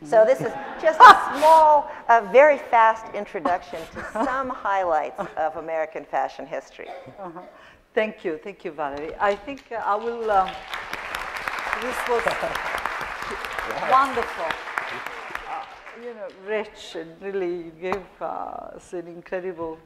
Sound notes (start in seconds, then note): 0.3 audience laughing; 9.9 applause